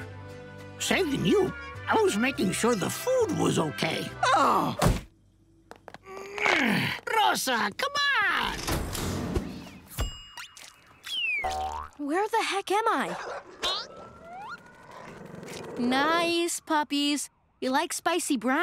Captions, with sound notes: Saving you? I was making sure the food was okay. Uh! [grunting] Rosa, come back! Where the heck am I? [barking] Nice puppies. You like spicy brown?